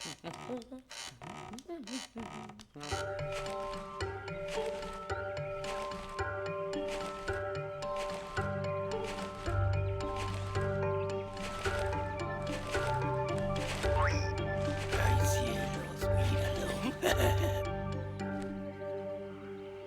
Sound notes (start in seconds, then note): 14.4 whispering; 15.2 chuckles